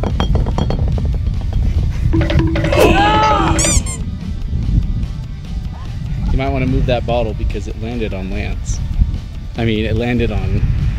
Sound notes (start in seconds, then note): 2.1 timer counting down; 3.6 squeak